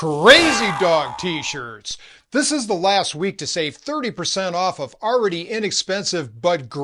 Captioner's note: none